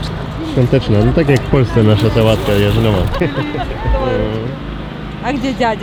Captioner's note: laughter